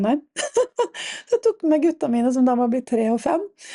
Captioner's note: laughter